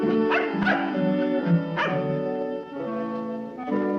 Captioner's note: gentle cheerful music; dog barking; light music